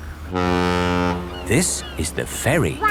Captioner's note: laughing; ferry horn blows